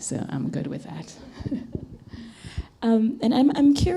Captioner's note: laughs